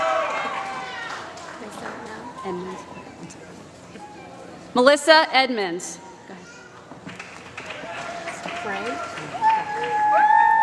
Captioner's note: applause